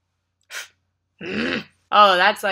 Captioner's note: blows; groans